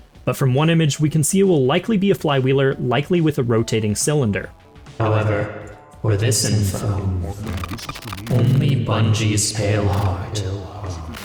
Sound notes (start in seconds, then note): 4.9 Witness voice effect